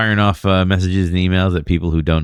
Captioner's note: uh